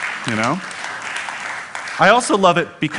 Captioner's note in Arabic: تصفيق